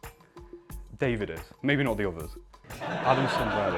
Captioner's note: laughter